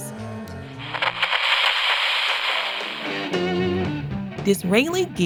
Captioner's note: radio crackles; rock music plays